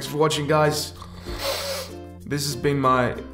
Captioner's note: sniff